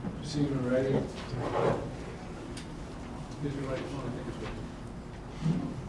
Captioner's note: none